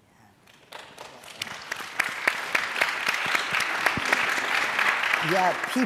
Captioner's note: audience applauding